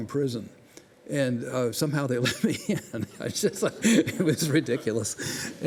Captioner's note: laughs